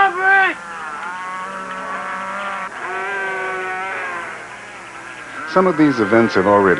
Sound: mooing continues

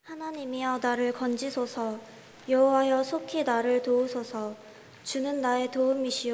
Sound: speaking in Korean

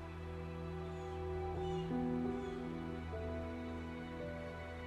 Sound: birds chirping; gentle music

